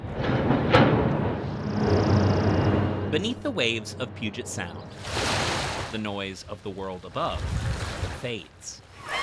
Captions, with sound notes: [ Construction noises ] -Beneath the waves of Puget Sound, the noise of the world above fades.